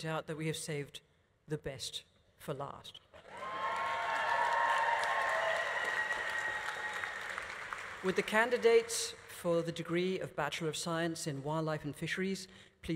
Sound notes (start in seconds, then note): 3.2 audience cheering; 3.2 audience applauding